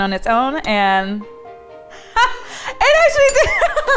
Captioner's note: laughing